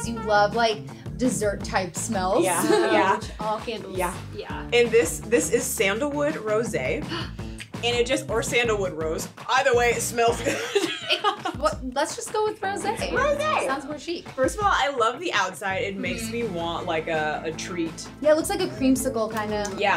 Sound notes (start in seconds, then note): 2.4 laughs; 7.1 gasps; 7.1 lips smacking; 10.7 chuckles